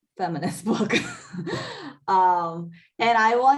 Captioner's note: laughs